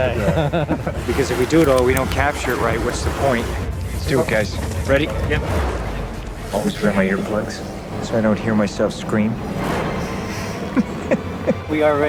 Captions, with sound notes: if we do it and do capture it right than what's the point always wear my earplugs so that I don't hear myself scream (chuckles)